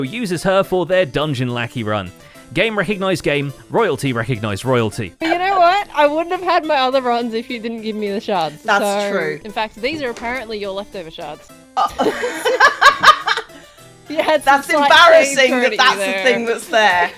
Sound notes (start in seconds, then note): 11.8 laughs